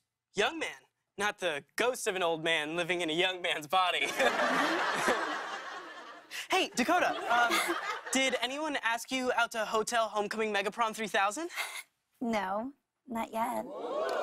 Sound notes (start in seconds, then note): 4.0 laughter; 13.8 audience oohs